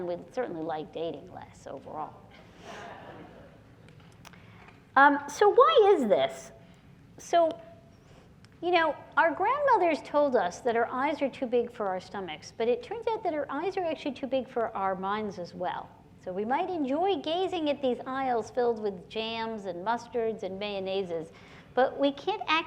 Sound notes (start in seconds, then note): 2.6 laughter